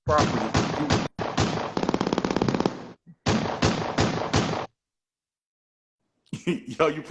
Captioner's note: gunshots